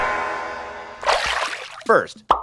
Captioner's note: water splashes